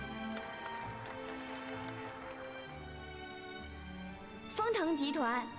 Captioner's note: applause